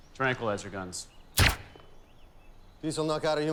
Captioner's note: gun firing